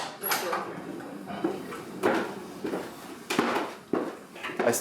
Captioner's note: footsteps